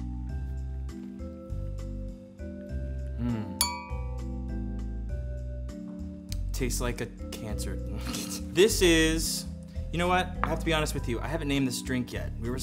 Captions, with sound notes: (calm music) Mmm. Tastes like a Cancer. (laughs) This is, you know what? I have to be honest with you. I haven't named this drink yet.